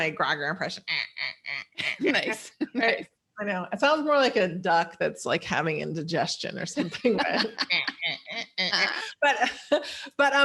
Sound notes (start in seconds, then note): 1.6 quacks; 6.7 laughs